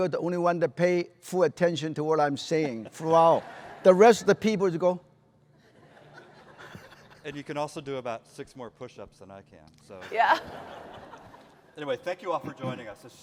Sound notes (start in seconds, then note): 5.6 laughter; 10.0 laughter